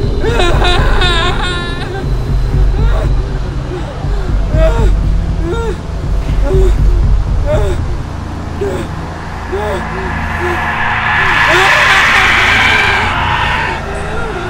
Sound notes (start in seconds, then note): 0.2 screaming; 4.0 panting; 11.4 screaming